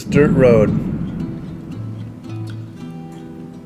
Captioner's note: thunder rumbles